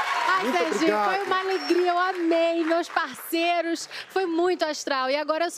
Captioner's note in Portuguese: aplausos